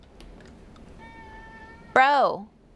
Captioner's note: meow!